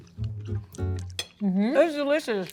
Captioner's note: gentle lively music; utensil clinking